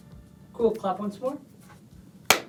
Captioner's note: hand claps